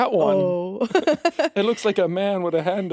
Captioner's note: chuckles